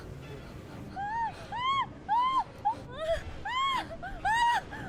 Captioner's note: Julie screams